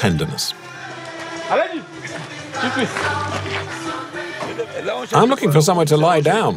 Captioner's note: foreign language